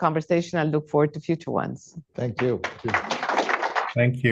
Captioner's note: applause